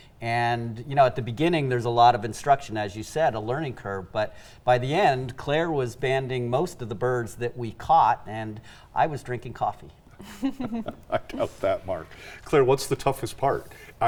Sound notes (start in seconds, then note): 10.2 chuckle